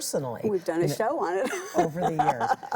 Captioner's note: laughs